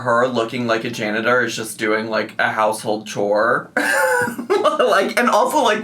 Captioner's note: laughs